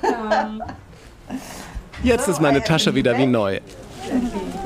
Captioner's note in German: englisch